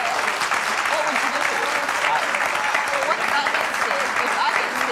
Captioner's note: audience applauding